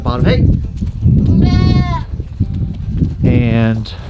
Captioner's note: goat bleating